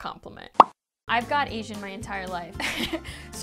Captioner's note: laughs